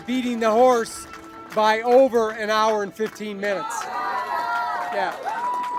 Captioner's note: cheers